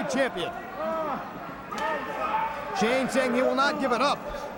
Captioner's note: crowd chatter